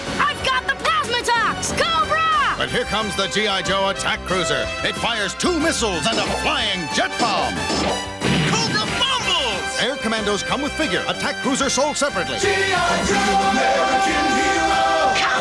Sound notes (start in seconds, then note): 8.2 boom!